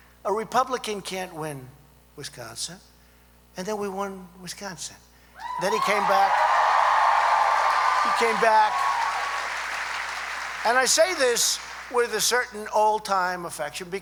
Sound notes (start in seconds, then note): 5.5 applause